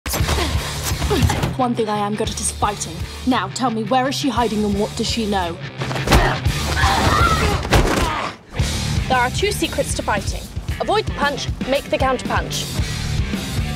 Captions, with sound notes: (upbeat rock music) - One thing I am good at is fighting. Now, tell me, where is she hiding, and what does she know? (people fighting) - There are two secrets to fighting. Avoid the punch, make the count punch.